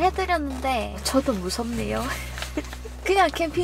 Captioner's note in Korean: 웃음